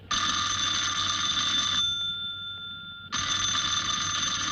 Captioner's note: phone rings